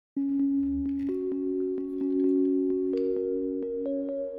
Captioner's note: ethereal chime plays